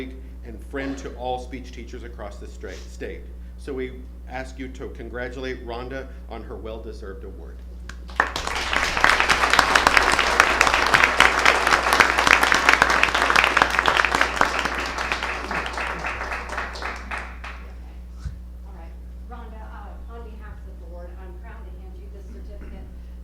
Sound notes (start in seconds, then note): 12.9 applause